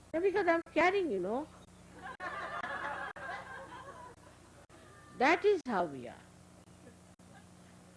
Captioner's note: laughter